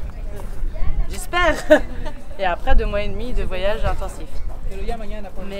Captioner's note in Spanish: risas